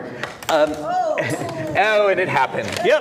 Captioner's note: chair breaks